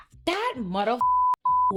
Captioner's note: beep